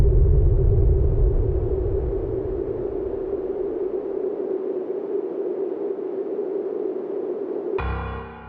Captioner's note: another crash